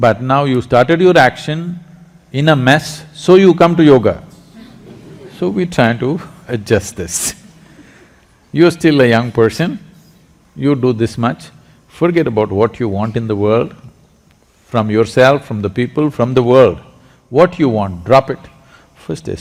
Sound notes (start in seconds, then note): 4.8 laughter; 7.1 laughs